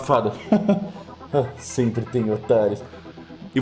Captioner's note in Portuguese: risada abafada